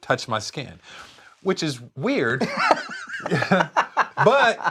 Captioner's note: both laugh